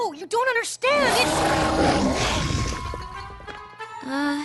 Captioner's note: roaring